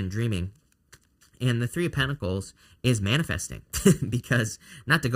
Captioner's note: chuckles